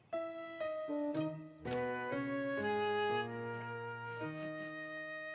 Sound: quiet sniffles

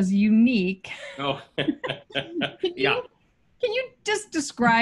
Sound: laughing

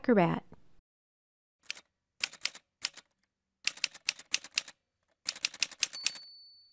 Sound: typewriter sounds

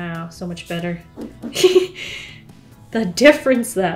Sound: laughs

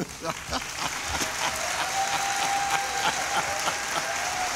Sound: applause

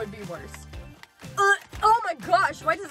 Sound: gagging

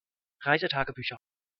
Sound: fast Pronunciation

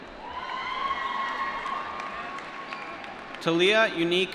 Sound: applause

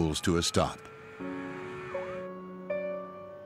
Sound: sirens

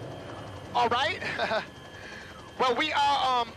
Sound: chuckles

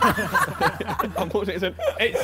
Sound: men laughing

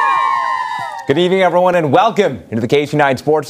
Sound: cheers

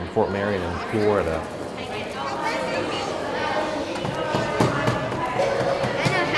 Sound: children playing/working on crafts

